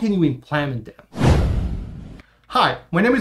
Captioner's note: air whooshing